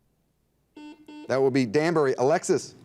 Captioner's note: buzzer dings